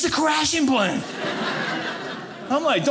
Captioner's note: audience laughing